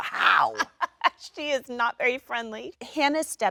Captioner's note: Jennifer laughs